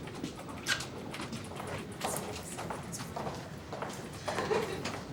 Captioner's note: footsteps clack